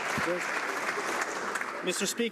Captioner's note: some Applause